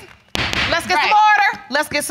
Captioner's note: slams gavel